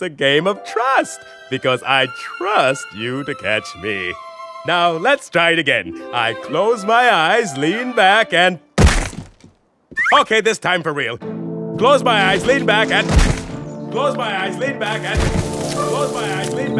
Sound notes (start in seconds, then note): 8.8 thump; 13.1 thump; 15.1 thump